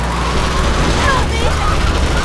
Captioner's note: engine revving